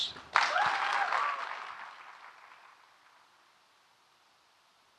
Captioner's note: audience clapping